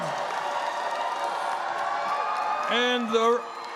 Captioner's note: cheering and applause